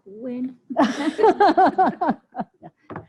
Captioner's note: laughter